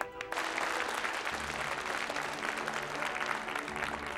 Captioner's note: audience applauding